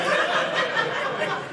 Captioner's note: audience laughing